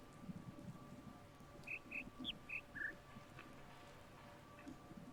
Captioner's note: bird chirps five notes